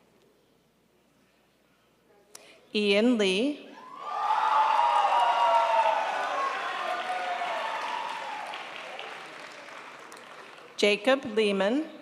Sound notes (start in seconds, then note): 3.9 audience applauding